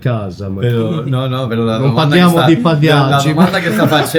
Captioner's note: laughter